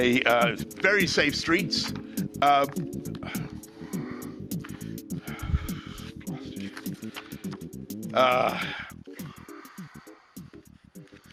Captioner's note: heavy breathing